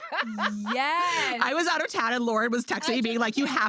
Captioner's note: laughs